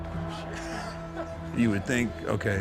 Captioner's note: laughs